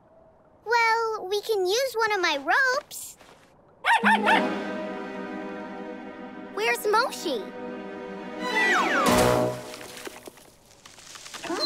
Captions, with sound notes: Well, we can use one of my ropes. [barking] Where's Moshi?